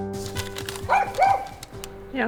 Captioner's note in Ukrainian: гавкіт